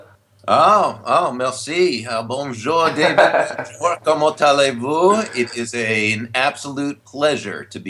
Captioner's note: foreign language